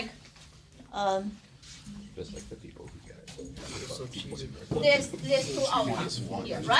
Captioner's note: students murmur